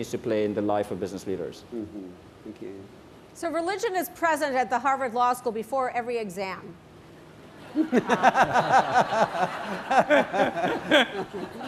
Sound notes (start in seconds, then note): 7.6 laughter